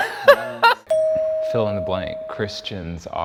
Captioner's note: laughs; bell dings